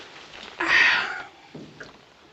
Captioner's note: sighs